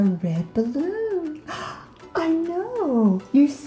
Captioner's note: gasping